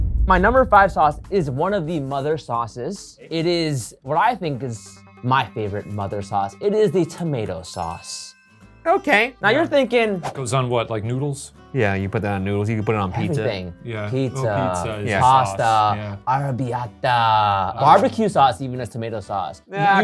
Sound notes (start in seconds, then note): 0.0 drumbeat thumps; 7.0 list chimes